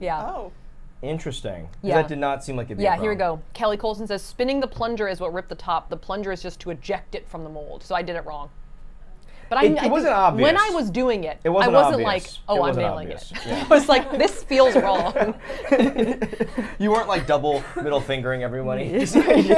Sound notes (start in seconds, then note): 14.5 everyone laughs